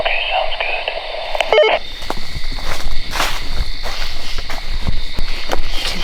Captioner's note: walkie beeps